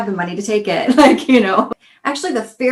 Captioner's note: chuckles